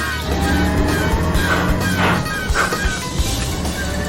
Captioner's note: gears grinding